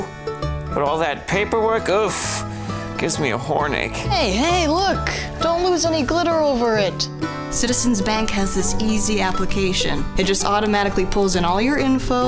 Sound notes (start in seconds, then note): 2.4 huffs